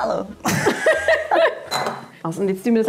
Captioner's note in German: lachen